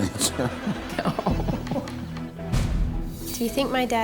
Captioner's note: laughs